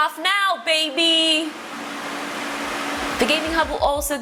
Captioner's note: fans whirring